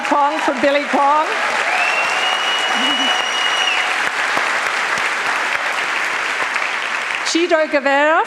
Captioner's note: applause